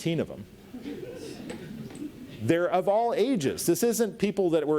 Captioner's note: audience laughs